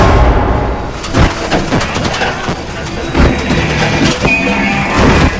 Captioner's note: car rattles and clanks